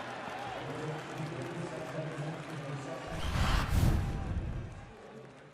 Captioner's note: pa announcement